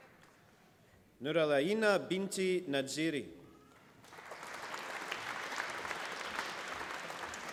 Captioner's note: applause